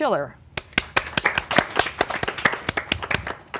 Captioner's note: applause